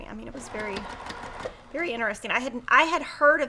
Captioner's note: sewing machine whirrs